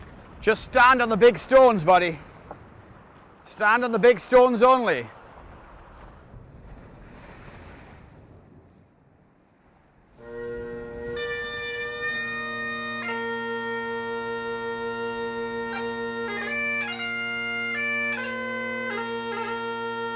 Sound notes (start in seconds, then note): 0.0 waves softly crashing; 7.2 waves softly crashing; 10.2 bagpipe music